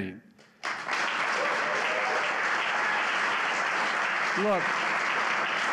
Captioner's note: applause